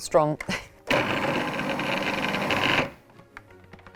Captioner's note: mixer hums; upbeat music